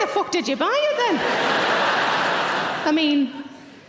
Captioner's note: audience laughing